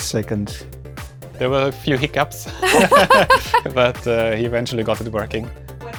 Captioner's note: laugh